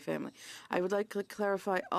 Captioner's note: speaking French